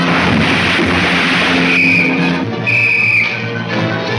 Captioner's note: whistle blowing